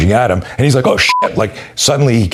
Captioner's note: beep